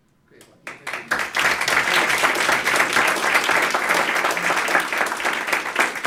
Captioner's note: applause